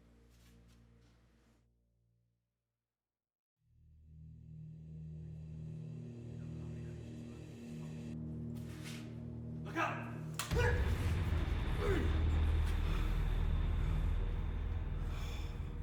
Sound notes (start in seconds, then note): 10.4 blow thudding; 12.6 soft tense music